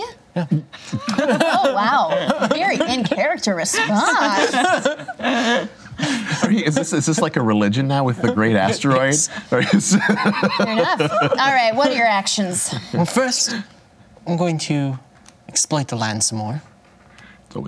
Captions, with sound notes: Yeah. Yeah. Oh wow, very in character response. (laughter) Is this like a religion now, with the great asteroid? Yes. (laughter) Fair enough. All right, what are your actions? Well first, I'm going to exploit the land some more.